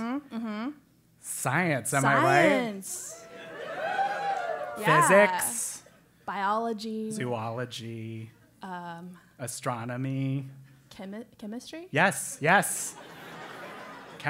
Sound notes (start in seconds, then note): 4.1 applause; 13.5 laugh